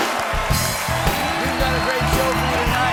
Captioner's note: cheers and applause